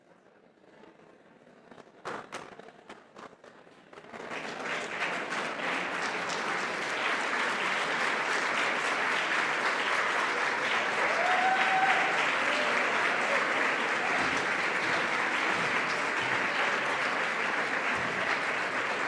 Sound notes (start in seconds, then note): 4.4 applause